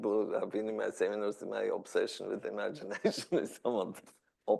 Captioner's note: laughs